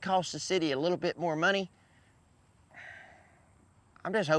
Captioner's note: sighs deeply